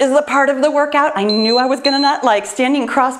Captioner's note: timer beeps